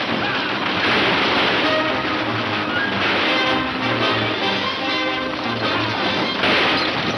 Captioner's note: horses gallop; several gunshots; men shouting